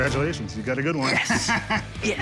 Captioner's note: laughs